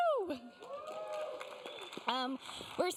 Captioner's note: cheers, applause